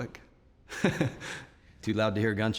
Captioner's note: chuckles